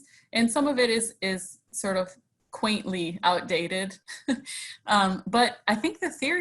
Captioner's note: chuckles